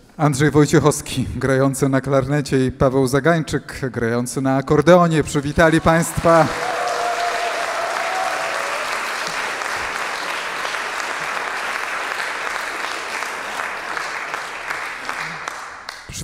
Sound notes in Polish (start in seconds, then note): 12.1 aplauz